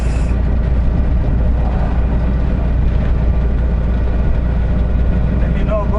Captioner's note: engine sound